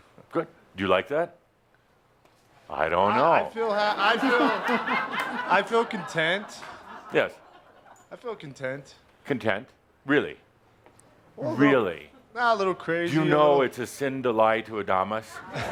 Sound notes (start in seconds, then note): 3.8 laughter